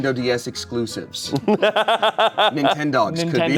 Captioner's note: laughing